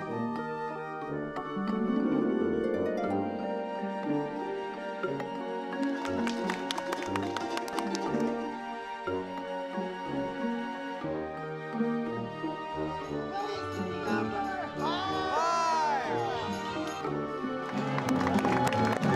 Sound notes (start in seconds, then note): 5.7 crowd clapping; 13.3 crowd cheering